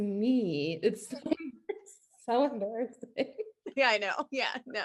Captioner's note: laughs